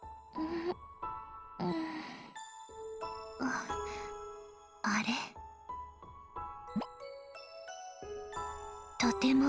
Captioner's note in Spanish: suspiro